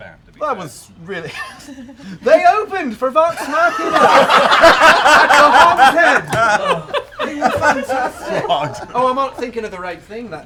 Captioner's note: laughs